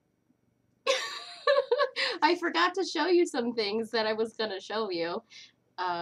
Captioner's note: laughter